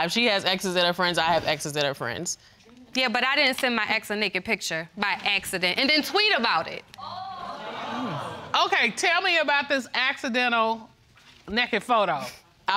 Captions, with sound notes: She has exes that are friends, I have exes that are friends. Yeah, but I didn't send my ex a naked picture by "accident," and then tweet about it. (AUDIENCE EXCLAIMING) Okay, tell about this "accidental" naked photo.